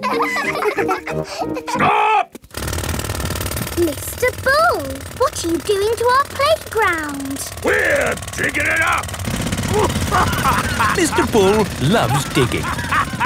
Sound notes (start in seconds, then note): 0.0 children laughing; 9.6 laughing